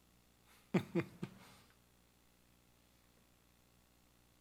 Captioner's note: laughs